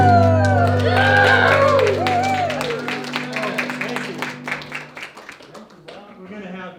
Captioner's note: applause